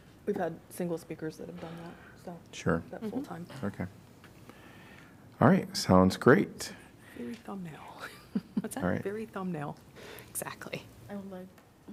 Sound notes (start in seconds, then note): 8.0 laughter